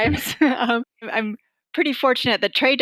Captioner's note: laughter